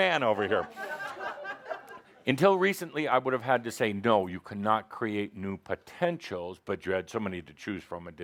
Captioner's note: laughter; laughing